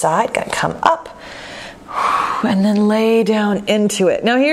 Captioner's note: exhale